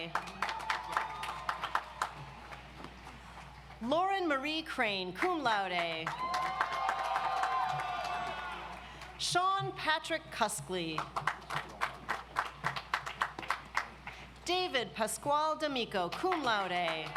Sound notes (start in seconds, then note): 0.0 audience applauds; 6.0 audience applauds; 11.0 audience applauds; 16.3 audience applauds